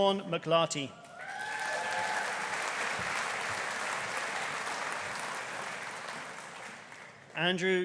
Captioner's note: audience cheering; audience applauding